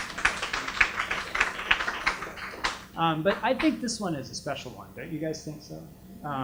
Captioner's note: applause